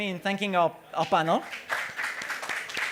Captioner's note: applause